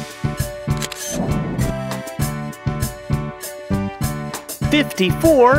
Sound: SFX: Camera Shutter

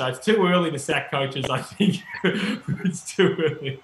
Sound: laughing

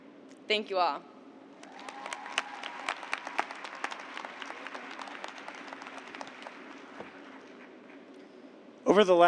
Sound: cheers and applause

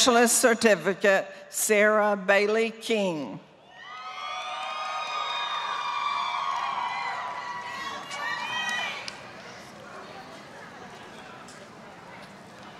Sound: applause

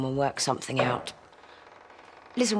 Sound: noise, then door creaks

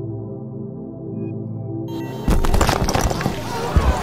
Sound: rock Fall

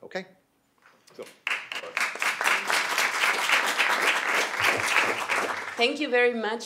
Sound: applause

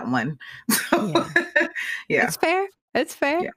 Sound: laughing

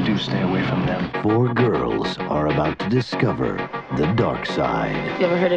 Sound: voice-over

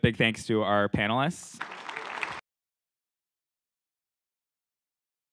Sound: applause

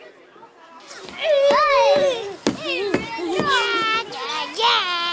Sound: children shouting

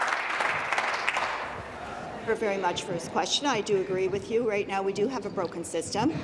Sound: applause

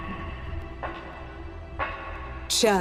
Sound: footsteps approaching

